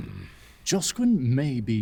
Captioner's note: Loam grunts dismissively